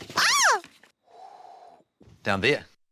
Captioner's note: exhales